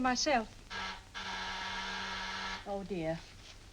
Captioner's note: door buzzer